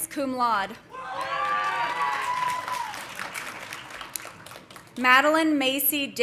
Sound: audience cheering; audience applauding

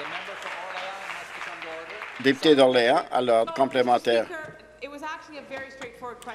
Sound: applause

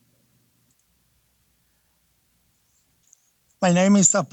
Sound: mouse clicks

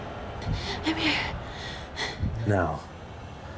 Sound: breathing heavily

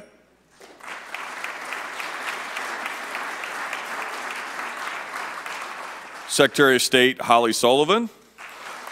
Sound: applause

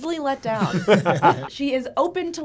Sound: both laugh

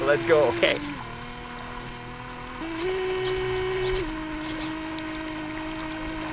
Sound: water lapping; motor buzzing

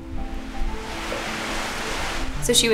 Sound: trees rustle

